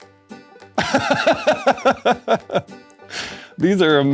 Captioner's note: laughter